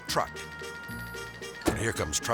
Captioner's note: melodic music; door slamming